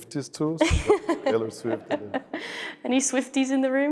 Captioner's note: laughs